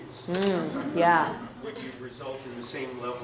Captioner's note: laughter; 笑聲